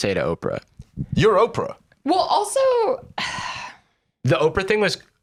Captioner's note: sighs